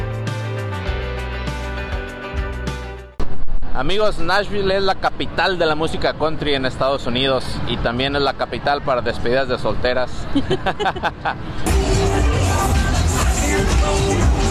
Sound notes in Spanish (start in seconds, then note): 10.2 risas